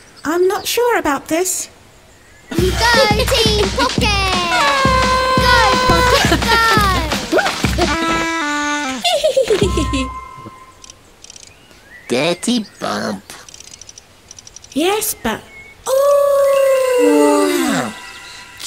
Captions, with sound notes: - I'm not sure about this - You go, team PocKit! - Aaaaah! [giggles] - Go PocKit! Go! - Whoops! [giggles] - Aaaaa! [robot style] - Dirty bump Wow! - Yes. But oooooh!